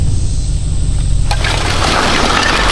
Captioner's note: tires Screeching